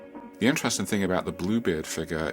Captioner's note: voiceover